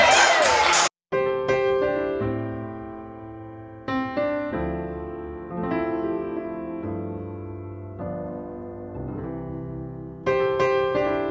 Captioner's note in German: Beifall